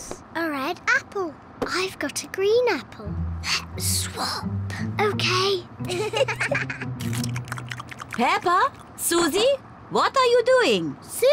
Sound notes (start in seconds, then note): 3.6 whispering; 5.8 both giggle